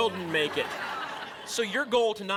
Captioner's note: laughter